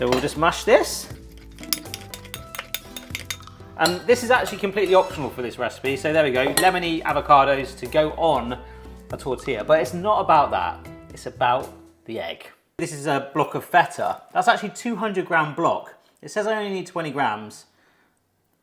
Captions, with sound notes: So we'll just mash this. (masher clinking) And this is actually completely optional for this recipe. So there we go. Lemony avocados to go on a tortilla, but it's not about that, it's about the egg. This is a block of feta. That's actually 200-gram block. It says I only need 20 grammes.